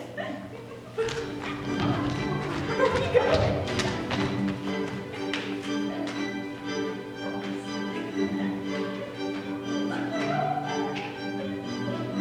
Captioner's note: playful chattering over joyful music